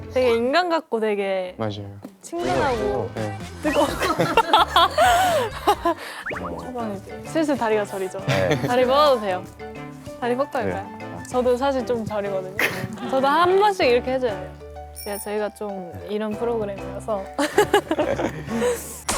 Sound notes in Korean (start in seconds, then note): 12.6 끙차 끙차